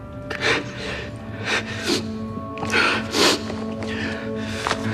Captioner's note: sniffling